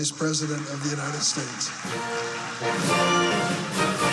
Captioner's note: applause